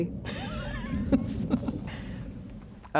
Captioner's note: laughs